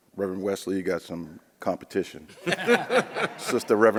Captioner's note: audience laughs